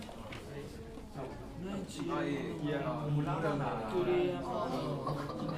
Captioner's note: reading aloud in foreign language